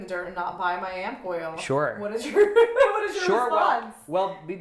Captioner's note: laughing